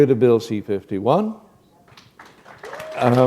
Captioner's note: applause